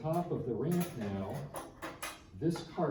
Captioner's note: metal clattering